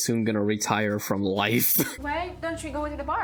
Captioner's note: chuckles